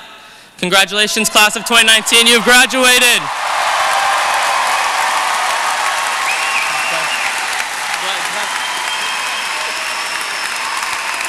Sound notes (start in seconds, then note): 3.9 cheering